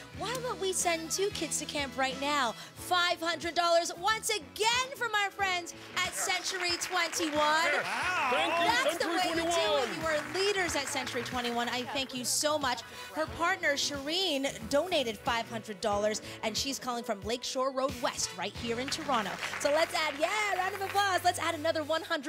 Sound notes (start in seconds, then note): 11.1 applause